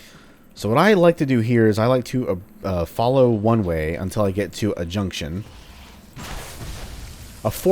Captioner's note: Matango gets fwooshed